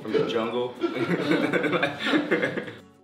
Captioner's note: laughter